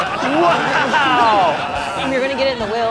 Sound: laughter

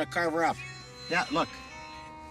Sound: cell phone ringing

